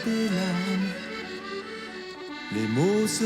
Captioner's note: none